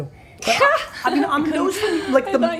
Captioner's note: laughing